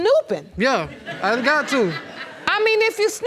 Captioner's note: audience laughing